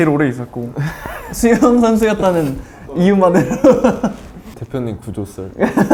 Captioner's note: haha